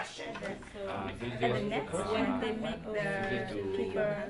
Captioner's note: chatting